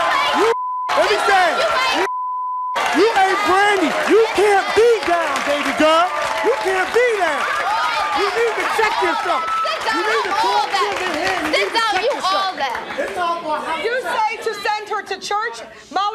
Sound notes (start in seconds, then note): 1.8 beeping; 1.8 crowd cheering